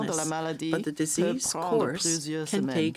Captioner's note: speaking French